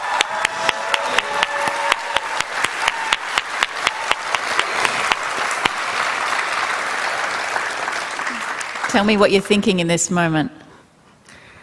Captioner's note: cheering and applause